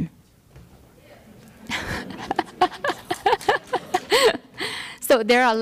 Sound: laughter

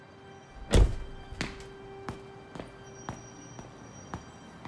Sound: lighthearted music; door slams

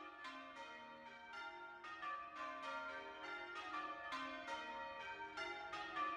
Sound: St James church bells ringing

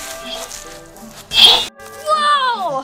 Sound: magical sound

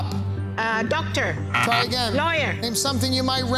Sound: buzzer beeping

